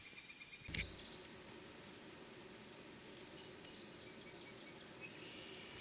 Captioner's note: sounds of birds and insects